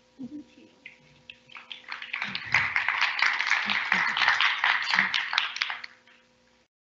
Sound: applause

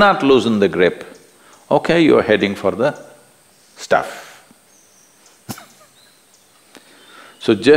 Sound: laughs

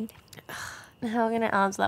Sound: scoffs

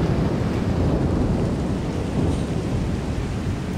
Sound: thunder

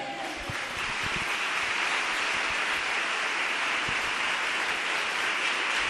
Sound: congregation clapping fervently

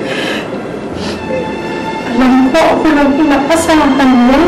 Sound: sniffles

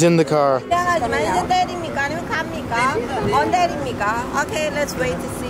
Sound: speaking foreign language

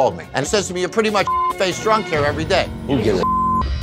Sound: beep

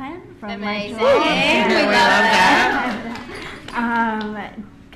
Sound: everyone cheering

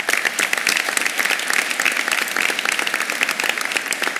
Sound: applause

